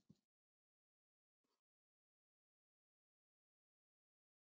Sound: silence

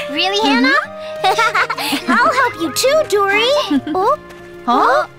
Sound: Tayo giggles

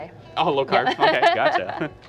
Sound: laughs

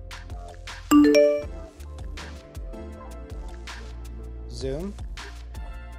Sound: message dings

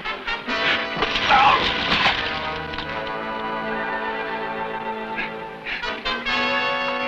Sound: Esparza groans; dagger whooshes

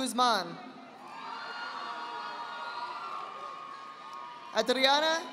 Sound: audience applauding

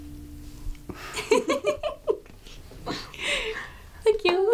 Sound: both laugh

